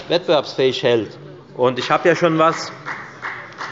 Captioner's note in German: Beifall bei der FDP